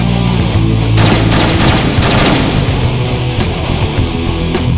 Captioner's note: gun blasting